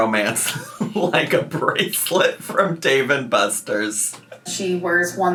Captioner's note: laughing